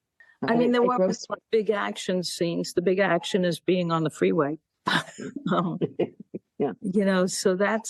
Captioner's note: laughing